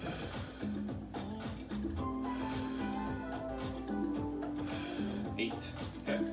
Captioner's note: breaths heavily; upbeat music; breaths heavily; upbeat music